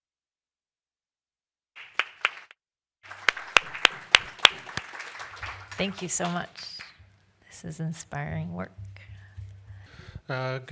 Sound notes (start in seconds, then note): 3.0 applause